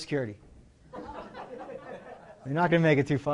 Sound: laughter

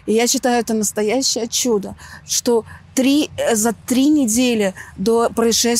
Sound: speaking in foreign language

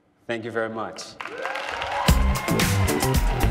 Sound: applause and cheering

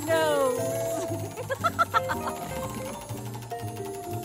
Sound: laughing

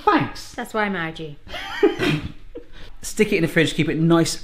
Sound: laughing

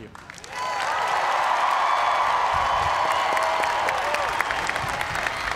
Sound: cheers and applause

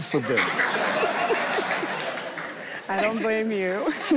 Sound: all laughing

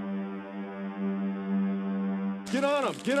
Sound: taser firing

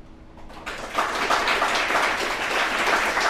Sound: applause

